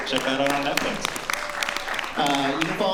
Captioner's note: applause